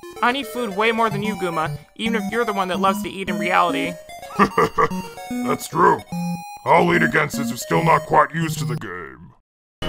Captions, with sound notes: I need more food than you, Guma. Even if you're the one that loves to eat in reality. (laughing) That's true. I'll lead again, since yer not quite used to the game.